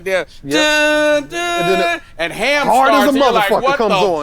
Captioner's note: humming a song